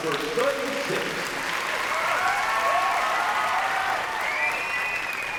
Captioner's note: cheering and applause